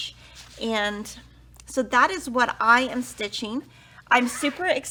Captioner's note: zipper vibrates